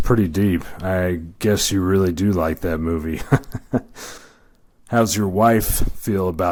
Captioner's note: laughs